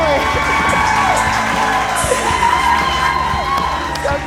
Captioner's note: people applaud